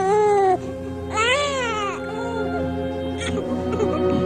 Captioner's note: crying continues